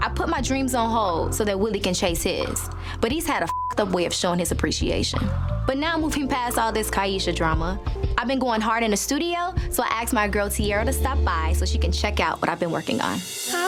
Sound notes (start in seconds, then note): 3.4 beep